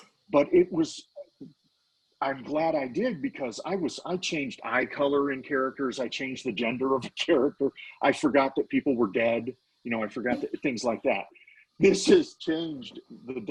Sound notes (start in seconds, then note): 7.4 laughing; 9.8 laughing